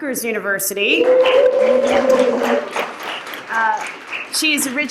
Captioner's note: cheers and Applause